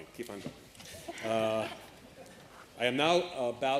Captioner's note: chuckling